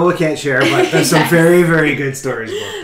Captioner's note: laughing